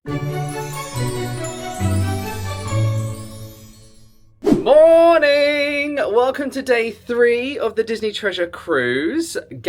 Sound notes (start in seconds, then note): 0.1 magical intro music; 4.4 screen wipe whooshes